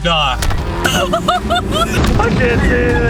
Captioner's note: laughs